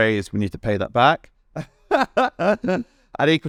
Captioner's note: laughs